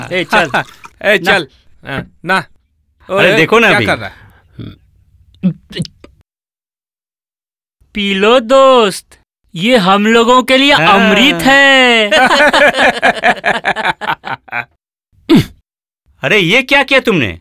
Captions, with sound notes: Come on. Come on. Look... - What are you doing? Drink it friend. This is divine nectar for us. [Laughs] What have you done?